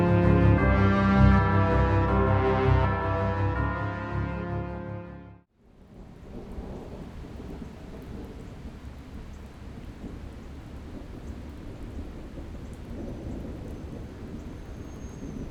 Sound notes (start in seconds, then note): 6.0 thunder rumbling; 9.4 rain splattering